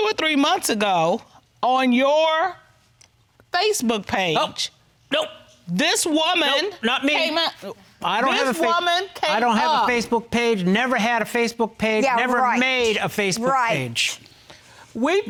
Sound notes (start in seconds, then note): none